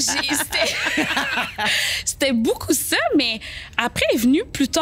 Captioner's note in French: rires